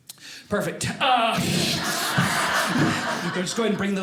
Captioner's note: audience laughing